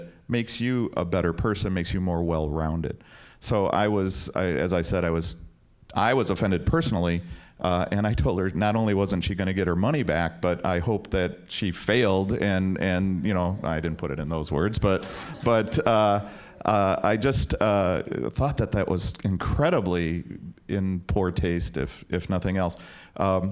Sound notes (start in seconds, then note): 15.5 audience laughing